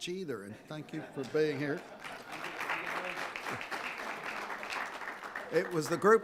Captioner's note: audience applauding